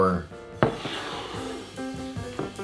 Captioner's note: glass sliding